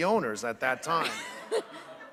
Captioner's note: laughter